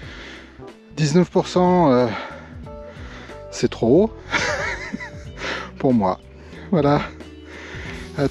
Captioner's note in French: rires